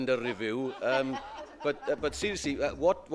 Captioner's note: laughter